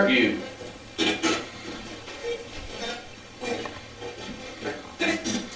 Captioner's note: static playback transmitting